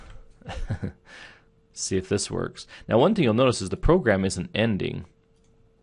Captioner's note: chuckles